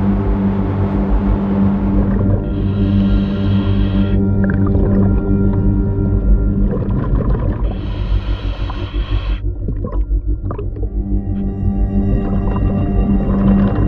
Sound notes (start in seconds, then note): 0.0 eerie music; 2.9 breaths in; 11.2 eerie music